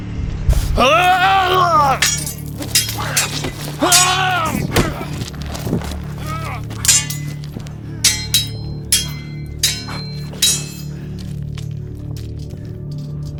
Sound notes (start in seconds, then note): 0.5 grunting; 0.5 swords clanging